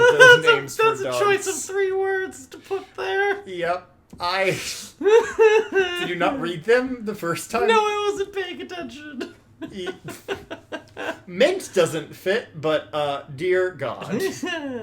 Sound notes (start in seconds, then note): 0.4 still laughing; 9.6 still laughing